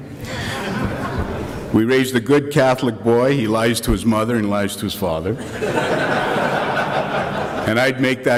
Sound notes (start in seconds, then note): 0.1 crowd laughs; 5.3 crowd laughs again